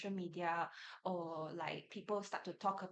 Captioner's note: none